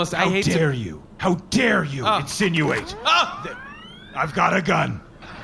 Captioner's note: sound of gun charging up